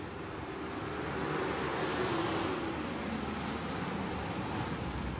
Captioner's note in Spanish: Sonido del carro